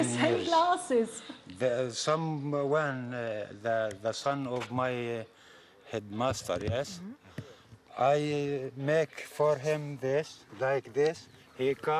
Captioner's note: speaking Alternate Language